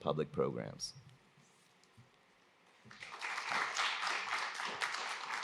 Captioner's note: applause